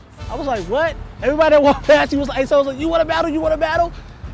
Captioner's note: laughs